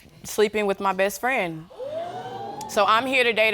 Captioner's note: audience exclaims